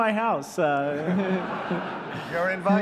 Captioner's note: laughter